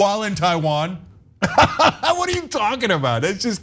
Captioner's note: laugh